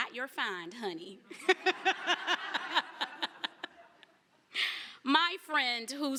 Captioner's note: laughter